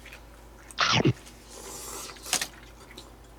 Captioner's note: slurp